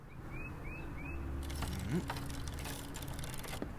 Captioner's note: gay bicycle noises